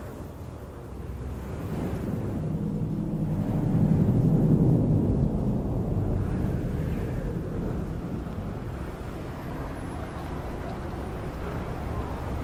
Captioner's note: wind and city noises